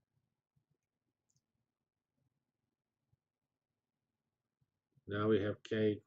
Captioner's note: pause